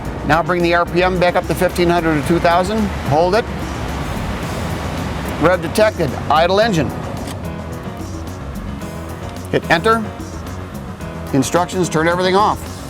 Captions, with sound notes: now bring the rpm back up to 1,500 to 2,000 hold it [engine reving] rev detected, idle engine [engine reving down to idle] hit enter instructions to turn everything off